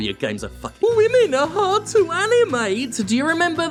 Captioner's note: mocking